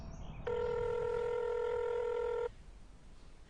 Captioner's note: phone ringing